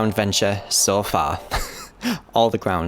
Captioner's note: laughs